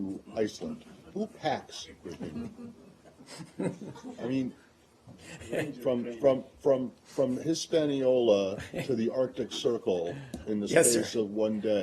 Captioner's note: laughter